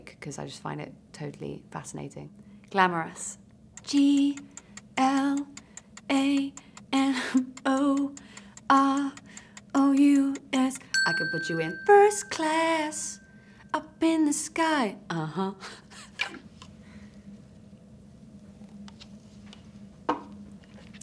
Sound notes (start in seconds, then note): 3.7 clock ticking; 10.9 bell dinging; 15.9 laughing